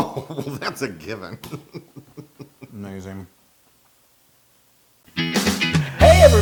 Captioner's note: laugh